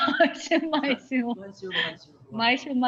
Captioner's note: laughs